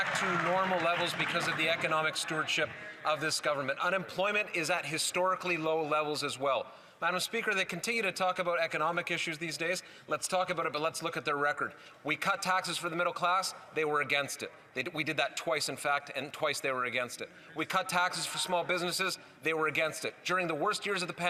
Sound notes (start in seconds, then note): 2.4 some Applause